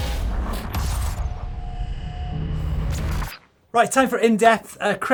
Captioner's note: electronic metallic zapping